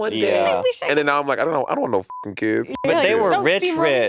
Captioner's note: beep